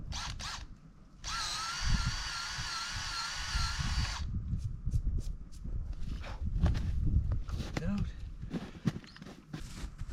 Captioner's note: drill whirring